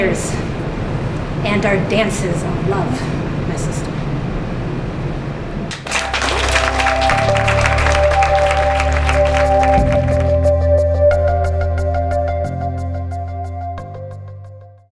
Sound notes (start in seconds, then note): 5.7 applause